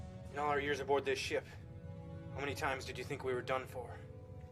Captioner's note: none